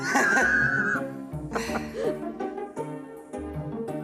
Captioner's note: laughter